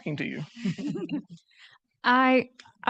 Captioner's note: laughing